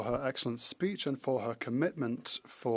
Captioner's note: speaking French